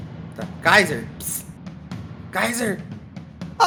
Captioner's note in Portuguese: pss